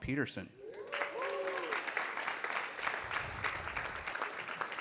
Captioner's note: audience clapping